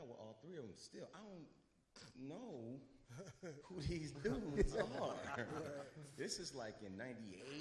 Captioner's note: chuckles